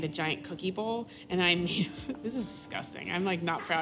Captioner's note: she laughs